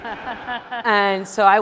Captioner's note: audience laughing